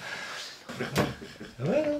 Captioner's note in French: rires gras